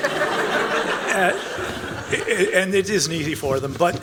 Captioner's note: panelists and audience laugh